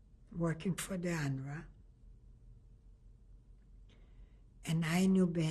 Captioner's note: pauses for 3 seconds